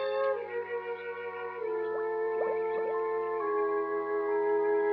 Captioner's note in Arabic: فقاعات الماء